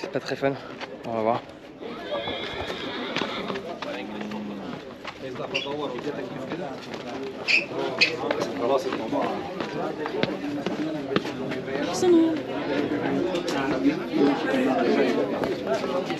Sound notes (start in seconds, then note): 2.6 crowd chattering